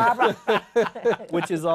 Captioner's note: laughter